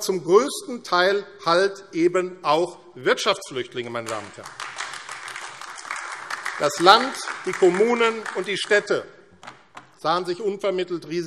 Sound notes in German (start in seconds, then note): 3.9 Beifall AfD